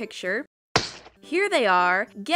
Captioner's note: shplat